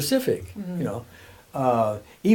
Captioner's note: humming